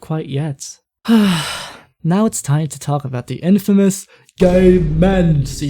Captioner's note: sigh